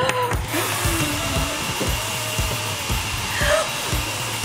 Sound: hair dryer whirring

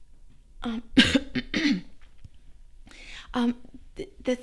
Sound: coughs

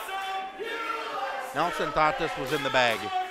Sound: crowd

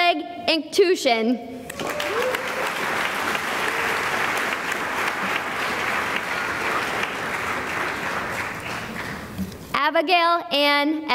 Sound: applause

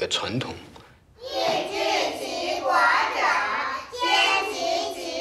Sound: speaking Chinese

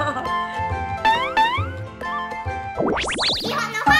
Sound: weeping

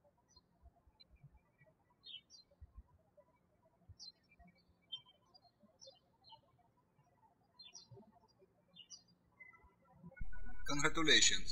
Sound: birds chirping

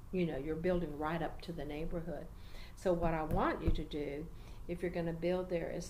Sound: tapping has continued

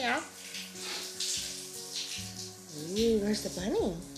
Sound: shower water flowing

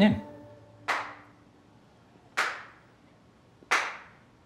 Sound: a slow clap

